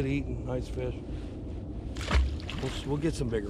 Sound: fish splashing

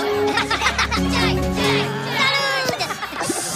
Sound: Minions Chanting

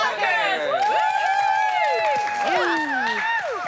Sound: whooping

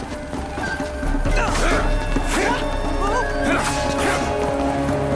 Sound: wincing

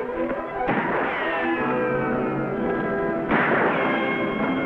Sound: guns firing

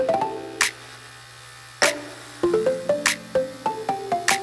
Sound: bright music; shaver buzzing

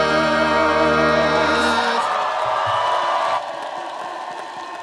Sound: audience cheering

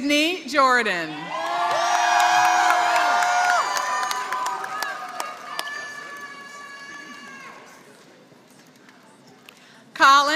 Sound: applause

